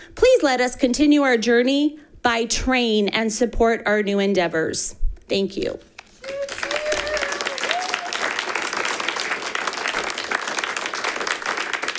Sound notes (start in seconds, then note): 6.1 audience applauds; 6.2 people cheer